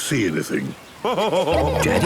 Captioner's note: laughing